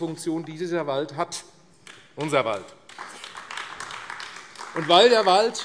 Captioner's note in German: Beifall AfD